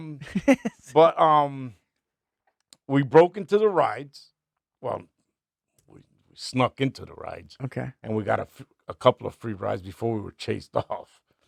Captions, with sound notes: (laughing) But we broke into the rides. Well, we snuck into the rides. Okay. And we got a couple of free rides before we were chased off.